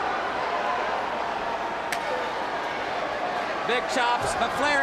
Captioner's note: crowd chatter